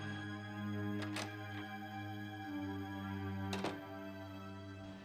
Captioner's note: door clicks